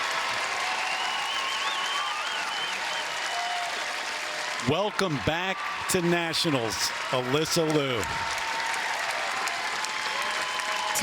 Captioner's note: cheers and applause